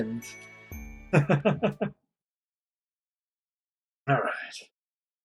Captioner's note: laughs